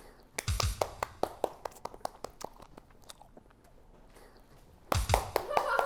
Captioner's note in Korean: 냅다 기립박수